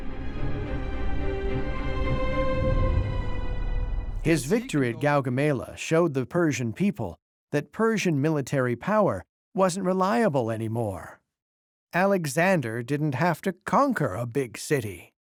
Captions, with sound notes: [suspenseful music] [in German] His victory at Gaugamela showed the Persian people that Persian military power wasn't reliable anymore. Alexander didn't have to conquer a big city.